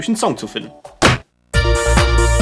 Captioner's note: weird punch sound